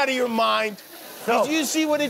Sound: laughter and applause

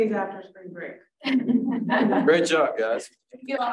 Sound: all laughing

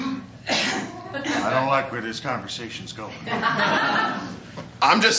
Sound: laughter

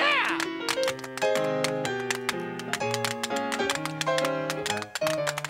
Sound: tap shoes clicking

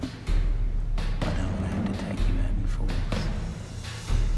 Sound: whispers

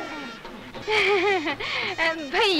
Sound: chuckles

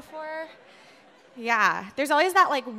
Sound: audience laughing

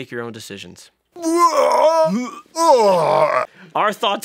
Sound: blaaaaarghhh

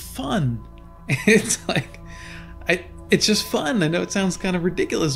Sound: laughing

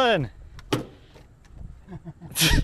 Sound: hammer banging; laughing

